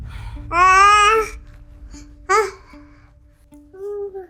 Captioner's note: wailing; crying